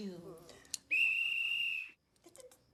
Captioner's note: whistle blows; tutting